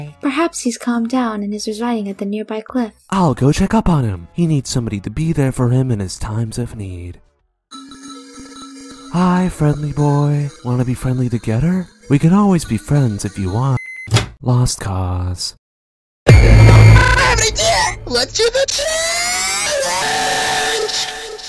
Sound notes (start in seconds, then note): 7.7 distorted noises